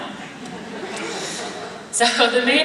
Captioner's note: laughing